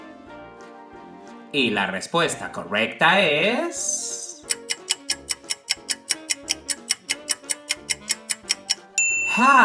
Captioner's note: clock ticking sound